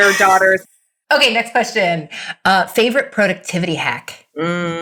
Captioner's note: group laughing